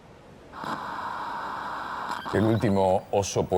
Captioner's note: TV static